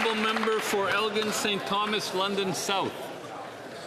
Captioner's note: speaking Alternate Language; some Applause